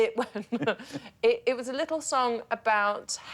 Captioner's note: laughs